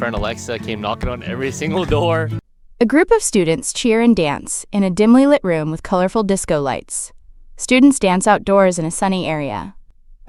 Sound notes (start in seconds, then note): 1.4 A group of students cheer and dance in